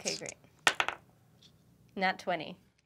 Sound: dice clack

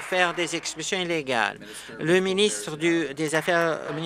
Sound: applause

